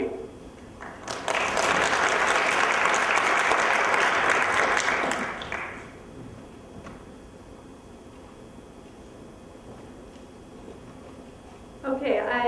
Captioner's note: applause